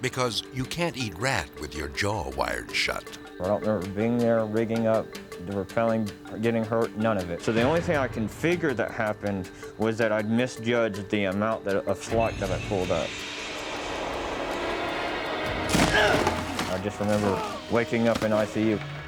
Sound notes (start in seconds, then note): 13.2 dramatic music; 17.1 grunts